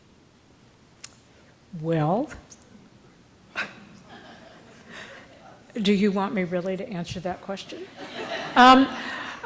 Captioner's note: laughter